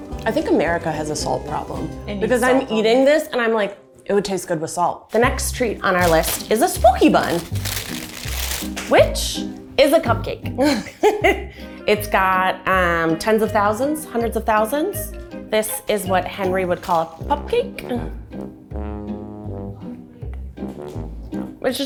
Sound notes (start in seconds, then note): 7.4 paper rustling; 10.6 chuckles; 18.0 gentle playful music